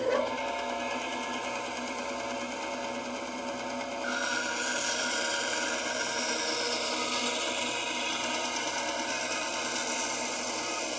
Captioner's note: saw cutting wood